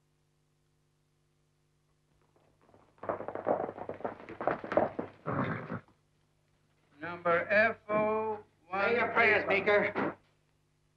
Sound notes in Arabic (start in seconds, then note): 2.9 اصوات الخيول; 5.2 صهيل الحصان